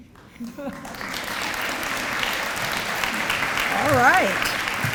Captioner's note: audience applause